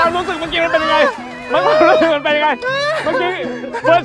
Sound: can't stop laughing

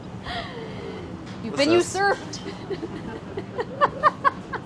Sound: laughs

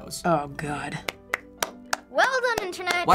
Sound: clapping

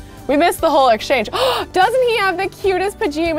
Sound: gasps

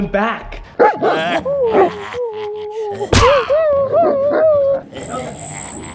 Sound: clown noises, Dogs barking

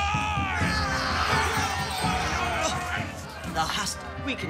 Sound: roleplayers shouting

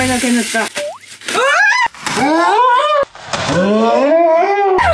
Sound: scream

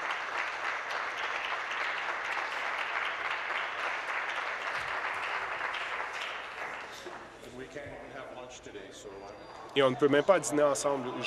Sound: applause

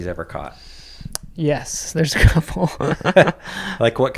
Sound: laughs

